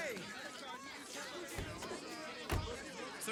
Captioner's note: clamouring